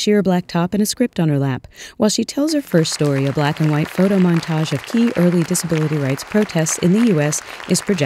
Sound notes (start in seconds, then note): 2.6 applause